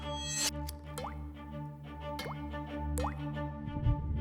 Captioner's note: instruments clicking; blood drips